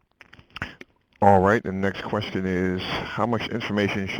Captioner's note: voiceover